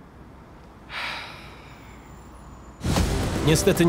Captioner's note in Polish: westchnienie